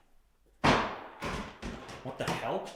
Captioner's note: ball thudding